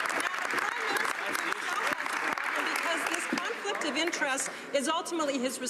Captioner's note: some Applause